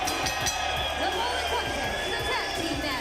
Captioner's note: bell ringing